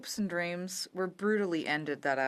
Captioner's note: speaking French